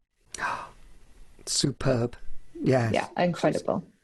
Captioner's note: gasps